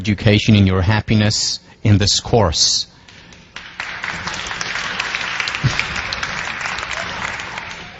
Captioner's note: applause and cheers